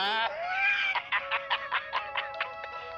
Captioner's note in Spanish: Risas